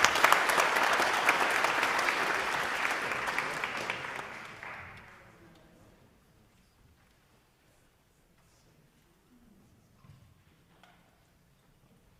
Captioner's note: applause